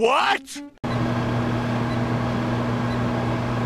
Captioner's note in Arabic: صوت الفرن